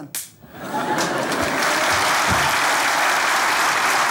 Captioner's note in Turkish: Kahkaha ve alkış sesleri